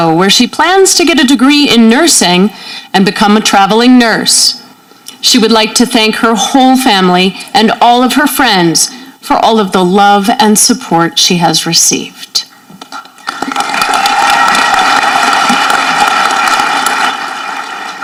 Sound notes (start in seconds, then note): 13.2 audience clapping